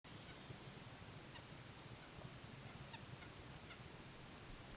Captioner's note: birds peeping softly